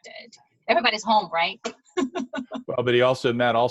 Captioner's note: laughs